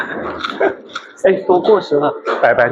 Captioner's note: laughs